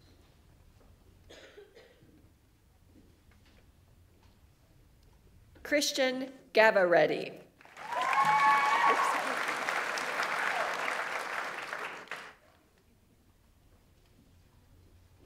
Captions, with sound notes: Christian Gavarrete. (audience applauds) (audience members cheer)